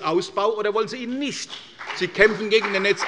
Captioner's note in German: Beifall bei der CDU und dem BÜNDNIS 90/DIE GRÜNEN